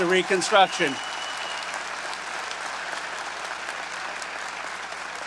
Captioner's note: audience applauding